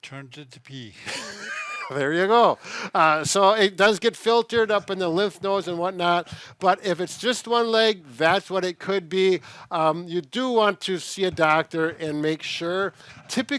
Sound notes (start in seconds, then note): 1.0 laughs